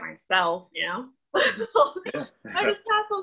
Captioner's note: laughs